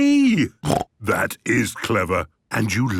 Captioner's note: snort